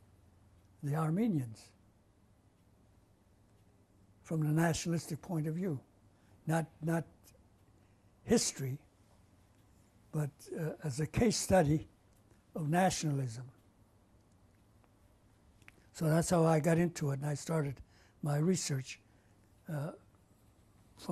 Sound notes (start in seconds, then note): 1.4 pauses for 3 seconds